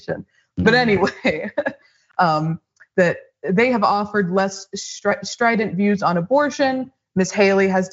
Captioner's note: laugh